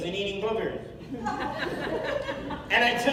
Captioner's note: laughter